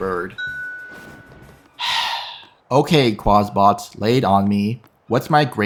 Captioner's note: sigh